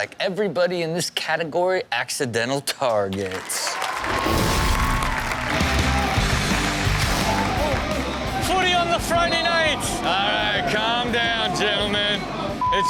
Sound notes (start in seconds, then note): 3.7 audience cheers; 5.3 upbeat music